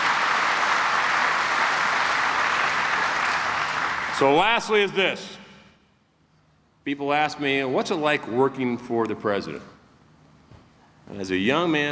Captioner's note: applause